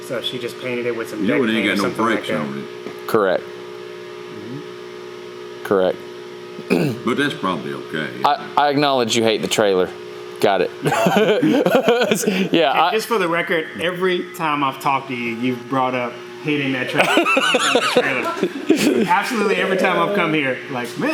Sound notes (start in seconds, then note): 10.8 Destin laughs; 16.9 laughs loudly